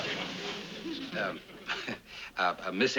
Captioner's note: laughs